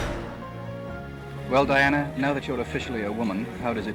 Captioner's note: whoosh